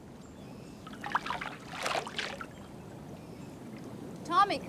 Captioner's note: water splashing